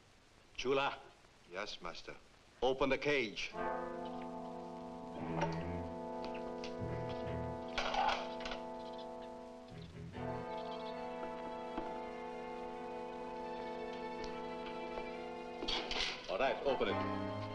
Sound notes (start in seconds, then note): 3.4 ominous music; 7.6 lock clicks